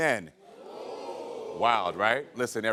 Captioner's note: audience oh's